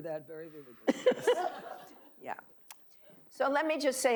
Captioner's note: laughing